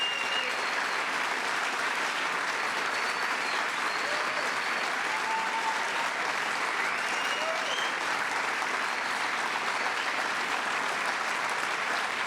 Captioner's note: applause